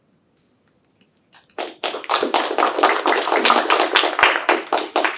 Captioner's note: applause